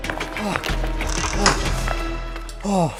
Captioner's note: door opens, then slams